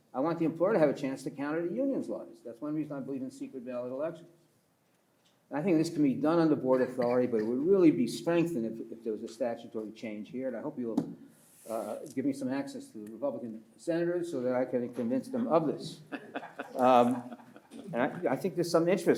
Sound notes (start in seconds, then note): 11.4 pats table; 15.3 listeners laugh